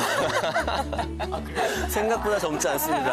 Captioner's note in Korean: 깔깔